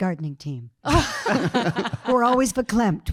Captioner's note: panel laughing